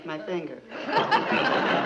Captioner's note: audience laughing